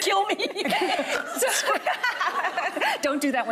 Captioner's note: laughing; snorts